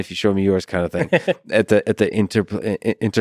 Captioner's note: Tim laughs